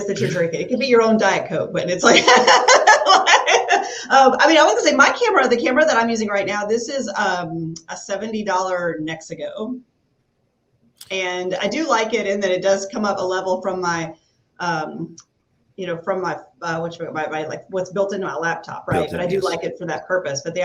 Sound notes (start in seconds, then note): 2.5 laughs